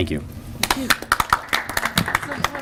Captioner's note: applause